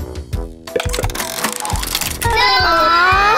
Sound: tile clicking; children yelling

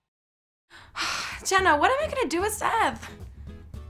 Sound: sighs

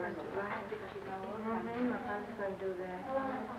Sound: chatter

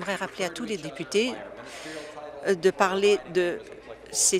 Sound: applause

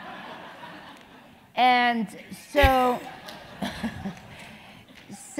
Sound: laugh

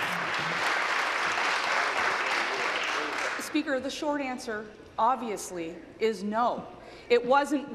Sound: applause

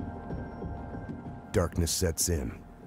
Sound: voiceover

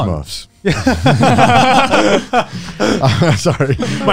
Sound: everyone laughs

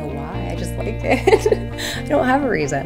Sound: laughs

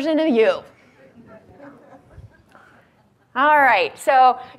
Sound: audience laughs

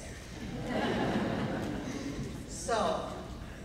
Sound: laughing

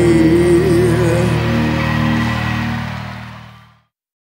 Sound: crowd cheering

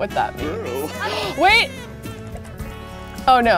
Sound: gasps

